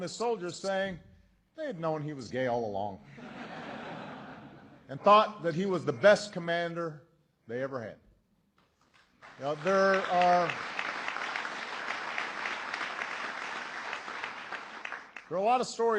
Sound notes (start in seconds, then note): 3.0 laughter; 8.8 applause